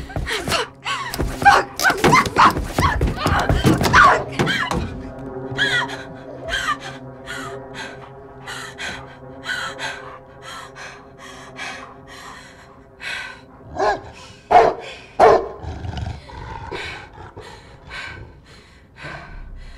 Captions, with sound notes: Fuck. Fuck, fuck, fuck, fuck, fuck! Ah, fuck! [SOBBING] [DOG BARKS AND GROWLS]